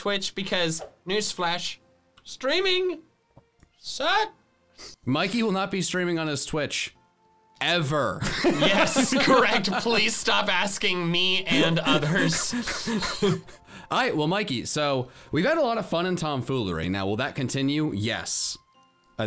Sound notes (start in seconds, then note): 8.3 laughing